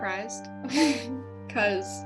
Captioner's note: fakes laugh